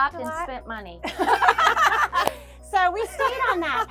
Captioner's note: both laughing